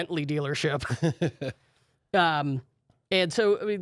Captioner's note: laughs